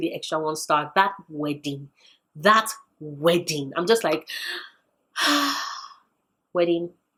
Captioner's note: sigh